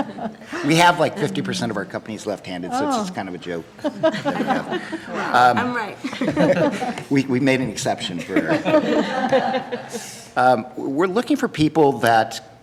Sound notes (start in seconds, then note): 6.6 laughing